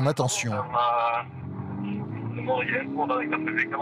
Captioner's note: French spoken audio